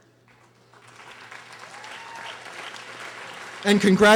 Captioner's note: audience applauding